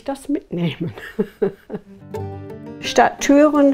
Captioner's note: she laughs